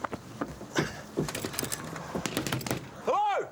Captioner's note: knocking